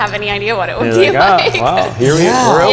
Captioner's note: laughing